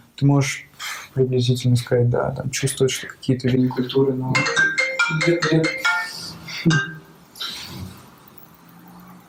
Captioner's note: phone ringing